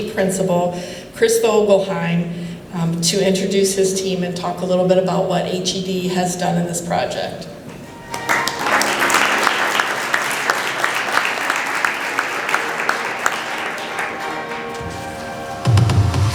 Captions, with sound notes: principal, Chris Vogelheim, to introduce his team and talk a little bit about what HED has done in this project. [APPLAUSE]